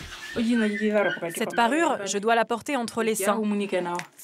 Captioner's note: herero audio spoken